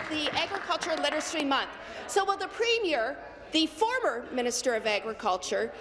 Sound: applause

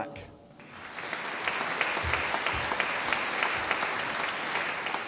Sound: audience applauding

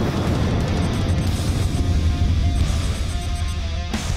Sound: soft beep

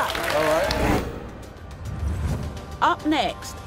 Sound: applause

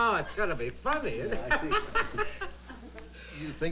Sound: laughing

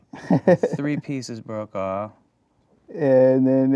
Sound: laughing

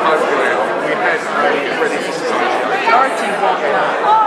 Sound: background chatter

